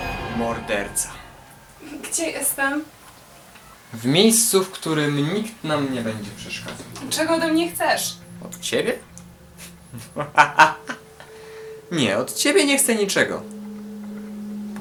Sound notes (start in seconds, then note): 9.9 evil laughter